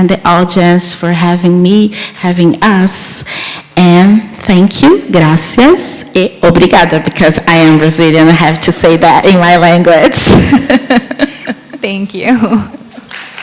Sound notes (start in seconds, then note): 10.0 laughs; 12.8 chuckles; 13.0 audience applauds